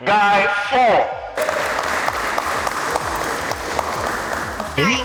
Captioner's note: applause